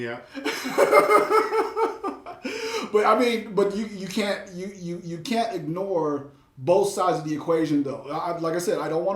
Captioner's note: laughs